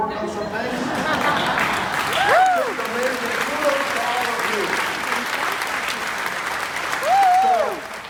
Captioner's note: audience laughs and claps